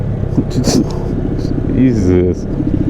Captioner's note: laughs